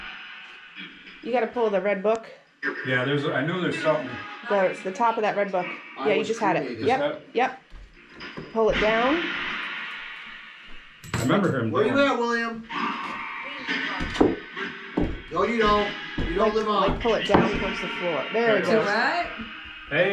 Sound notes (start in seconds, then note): 14.4 radio noise tapping